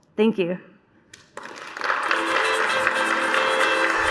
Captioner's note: applause